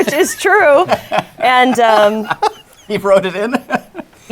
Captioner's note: laughter